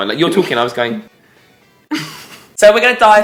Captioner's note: laughs